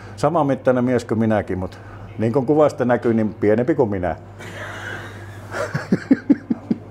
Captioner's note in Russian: смеется